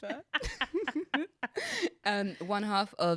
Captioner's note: laughs